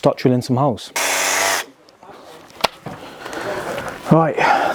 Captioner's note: drill whirring